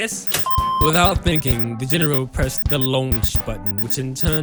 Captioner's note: alarm Sounds